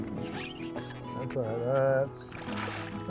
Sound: splashing

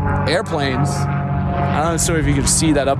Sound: airplane engine roaring

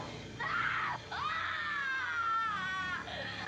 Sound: screaming

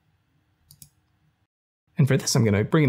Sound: mouse clicks

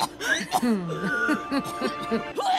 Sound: coughing; Frenchy chuckling

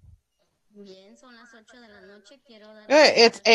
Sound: speaks Spanish

